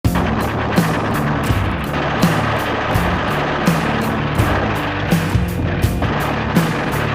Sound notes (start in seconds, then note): 0.0 rock music; 2.6 gunshots